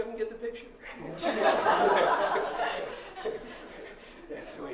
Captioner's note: laughter